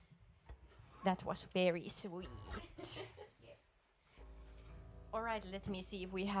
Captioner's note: laughter